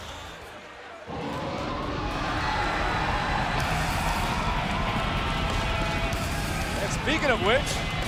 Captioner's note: crowd cheering